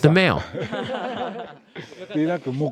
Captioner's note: laughter